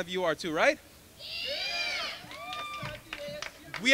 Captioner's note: crowd